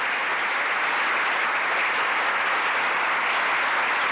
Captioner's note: applause